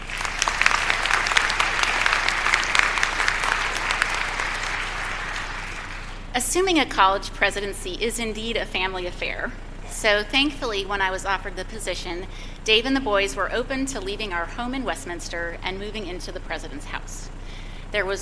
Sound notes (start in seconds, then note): 0.0 applause